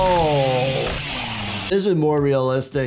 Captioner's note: chainsaw buzzing